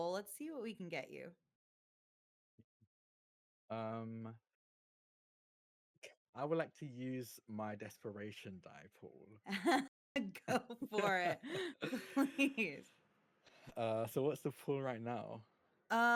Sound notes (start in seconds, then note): 10.5 laughing; 10.5 chuckling